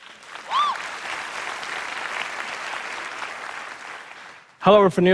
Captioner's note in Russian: Аплодисменты и одобрительные возгласы